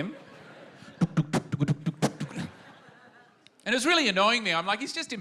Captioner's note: makes doof-doof sounds